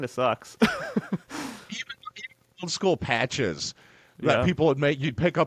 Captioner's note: laughing